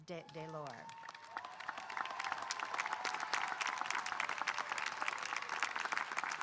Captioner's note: audience cheering and applauding